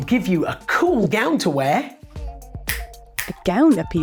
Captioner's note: clicks fingers